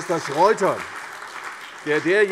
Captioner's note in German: Beifall CDU, Freie Demokraten und vereinzelt AfD